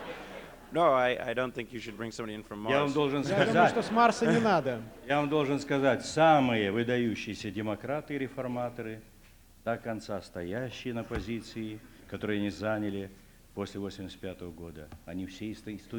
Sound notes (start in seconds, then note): 4.4 non-english speech